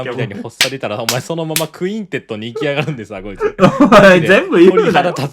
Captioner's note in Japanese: 笑い; 笑い